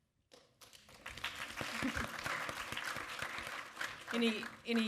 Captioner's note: audience applaud